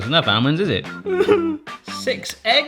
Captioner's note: cries